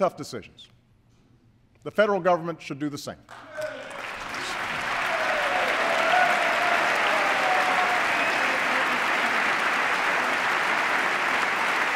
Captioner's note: applause